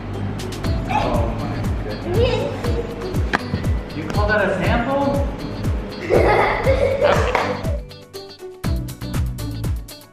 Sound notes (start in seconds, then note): 6.0 laughs